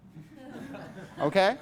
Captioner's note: class laughs